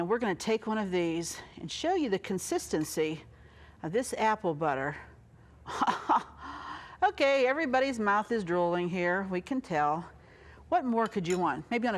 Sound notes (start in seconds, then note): 5.7 chuckles